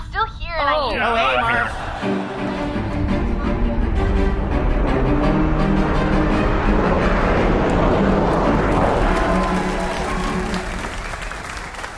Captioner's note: transition, audience applause